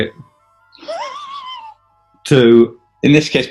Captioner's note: sniggering